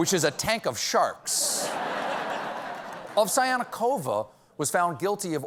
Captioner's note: laughter